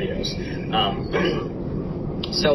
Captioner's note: clears throat